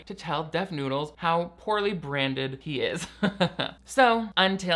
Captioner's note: laughs